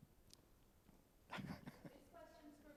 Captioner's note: laughs